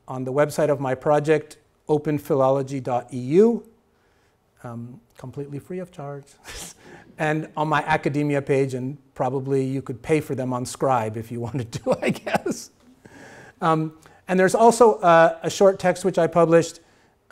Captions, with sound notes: on the website of my project openphilology.eu, completely free of charge, and on my Academia page. And probably you could pay for them on Scribd if you wanted to, I guess (laughing). And there's also a short text, which I published,